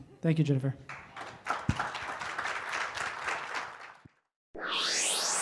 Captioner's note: audience claps